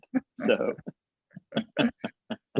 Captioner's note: both laughing; laughing